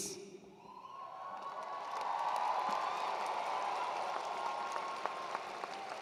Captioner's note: attendees cheering and applauding